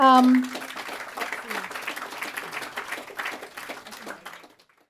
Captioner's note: audience applauds